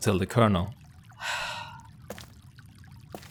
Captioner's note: Morgan sighs